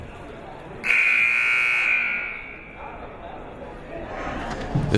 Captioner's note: buzzer blares